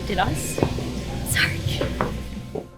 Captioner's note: crying